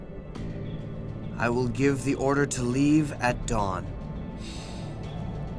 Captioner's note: gasps